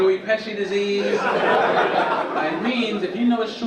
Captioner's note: audience laugh